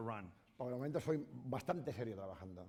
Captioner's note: speaking spanish